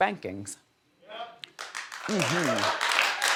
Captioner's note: audience applauds